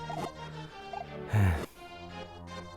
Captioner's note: sigh